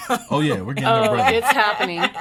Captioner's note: laughs